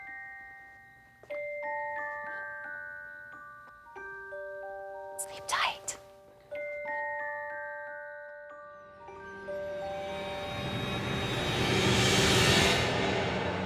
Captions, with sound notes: - (whispers) Sleep tight. (eerie music)